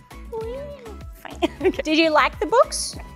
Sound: southern accent

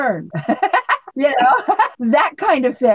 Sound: laughs

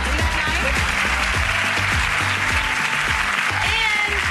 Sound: applauding

